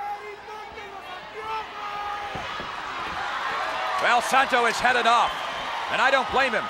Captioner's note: applause